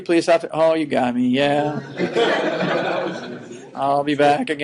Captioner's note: laughing